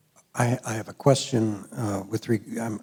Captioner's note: voiceover